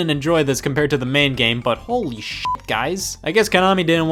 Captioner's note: beep